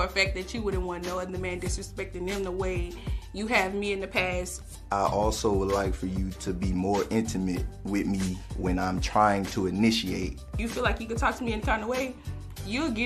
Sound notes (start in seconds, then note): none